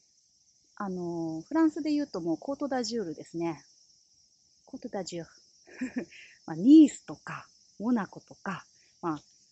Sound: laughs

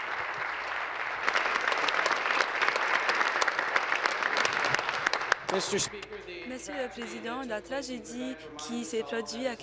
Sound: applause

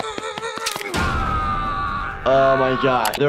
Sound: Jeffy screams

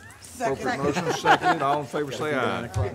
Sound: laughing

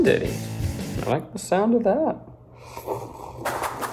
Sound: slurping

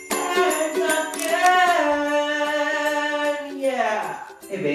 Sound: camera shutters

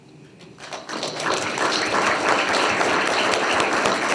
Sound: group clapping

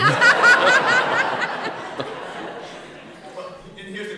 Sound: laughter

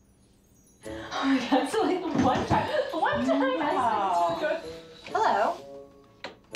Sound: indistinct conversation

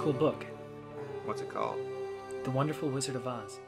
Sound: voiceover

